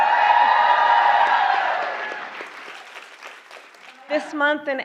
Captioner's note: applause